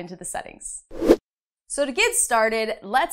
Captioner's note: air whooshing